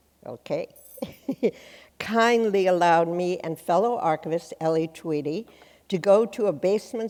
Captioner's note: chuckles